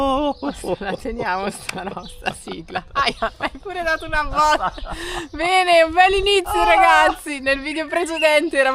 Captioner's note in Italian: risate